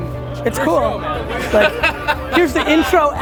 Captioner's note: laughs